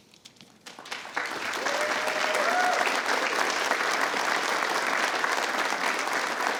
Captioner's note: attendees applauding and cheering